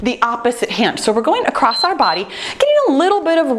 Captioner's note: timer beeping